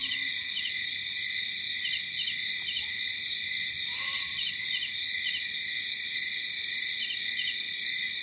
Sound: light jungle ambience

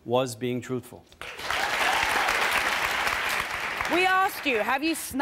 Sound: audience applauds

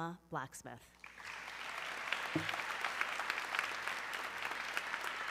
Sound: audience clapping

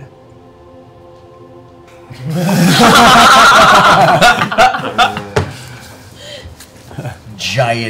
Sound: laughter

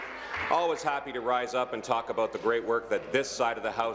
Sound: applause

